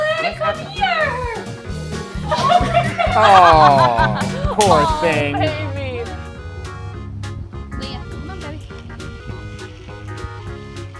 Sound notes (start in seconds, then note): 2.2 laughter; 9.9 upbeat music